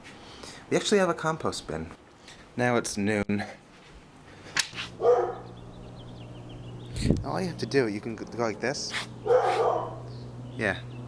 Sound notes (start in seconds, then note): 5.0 Sasha barks; 9.2 Sasha barking